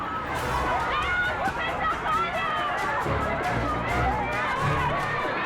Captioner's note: screams and chattering